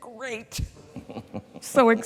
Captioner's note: chuckles